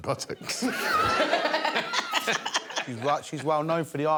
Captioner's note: laughter